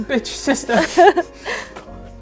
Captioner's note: laughs